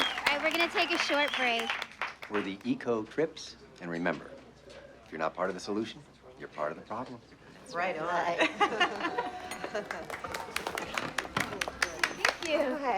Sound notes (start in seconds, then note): 8.4 laughs; 9.5 clapping